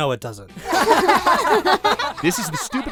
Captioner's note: everyone laughing